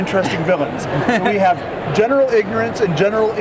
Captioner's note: giggles